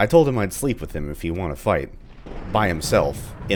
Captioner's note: thunder